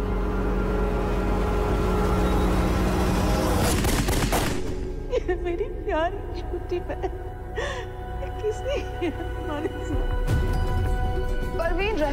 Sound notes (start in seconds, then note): 0.1 car engine revving; 3.5 gunshots blazing; 7.2 woman sobbing in foreign language